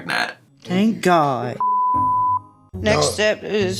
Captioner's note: beep